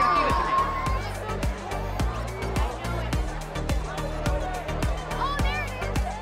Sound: wild cheering; upbeat techno music

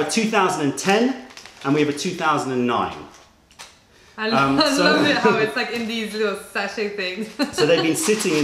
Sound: laughter

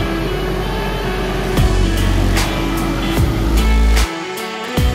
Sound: machinery running

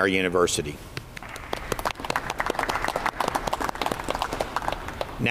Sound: audience applauds

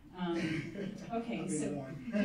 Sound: laughing

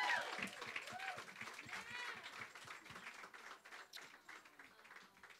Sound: cheers and claps

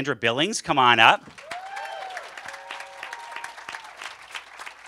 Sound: cheers and applause

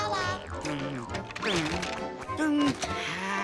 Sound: humming; sighing

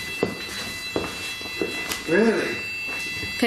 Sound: REM Pod whines

